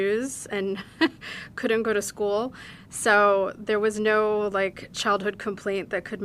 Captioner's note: laughing